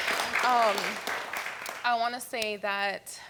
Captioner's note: audience applauding